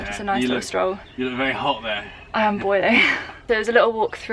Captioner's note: laughing